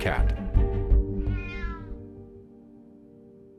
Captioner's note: cat meows